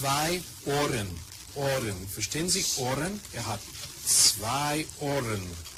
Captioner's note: speaks German